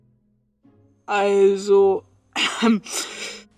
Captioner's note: coughs